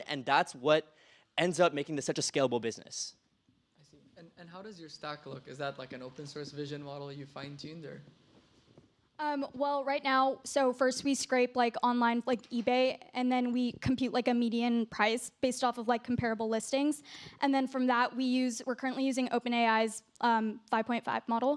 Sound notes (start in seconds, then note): none